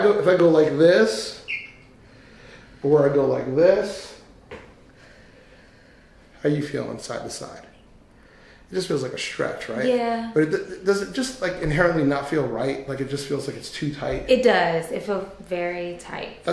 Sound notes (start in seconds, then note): none